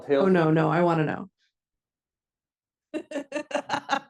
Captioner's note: laughs